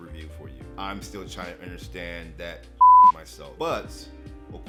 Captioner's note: beep